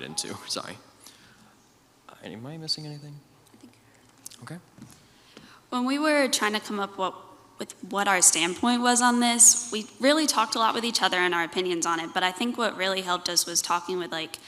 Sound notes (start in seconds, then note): none